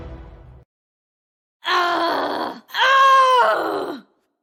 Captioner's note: shouting